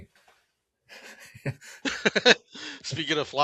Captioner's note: laugh